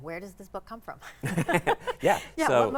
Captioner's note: laugh